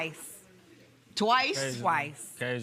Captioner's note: normal voice